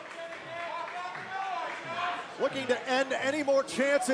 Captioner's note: crowd cheering